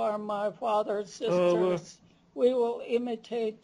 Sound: non-english speech

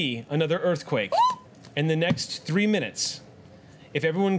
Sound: yelps

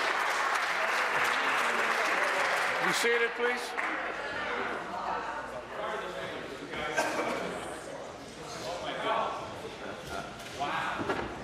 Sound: applause

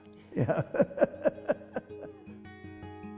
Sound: laughs

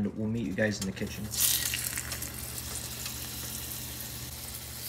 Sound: fish sizzling

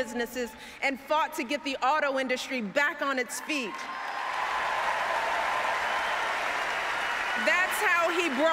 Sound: applause

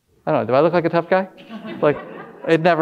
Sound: audience laughing

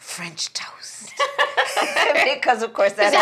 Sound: laughing

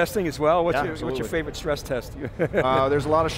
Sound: laughs

